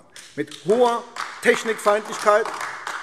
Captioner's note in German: Beifall AfD